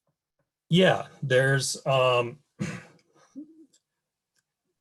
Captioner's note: clears throat